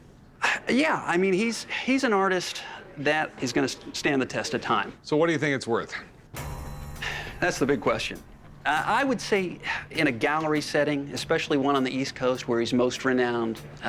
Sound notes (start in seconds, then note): 6.8 sighs